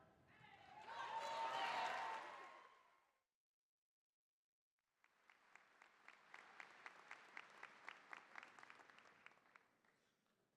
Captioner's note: cheering, applause